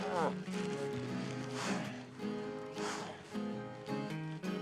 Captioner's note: Isaac continues groaning